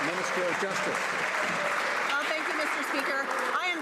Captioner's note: some Applause